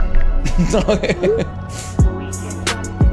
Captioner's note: laughs